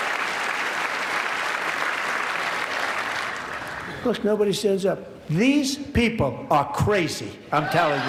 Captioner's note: applause